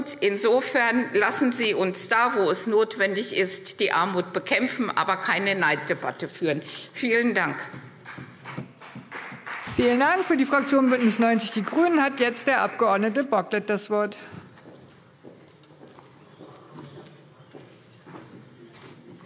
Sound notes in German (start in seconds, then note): 7.9 Beifall CDU und BÜNDNIS 90/DIE GRÜNEN